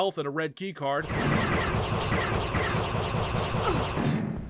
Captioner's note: sci-fi gunfire SFX, pew pew pew